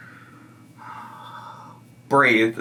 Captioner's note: exhales